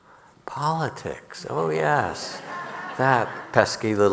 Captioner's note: audience laughing